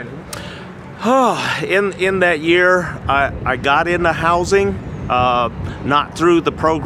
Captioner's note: sighs